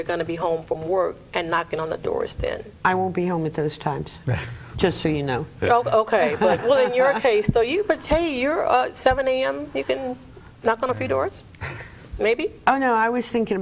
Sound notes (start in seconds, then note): 5.6 laughs; 6.2 all laugh